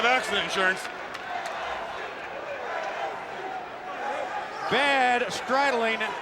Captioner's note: applause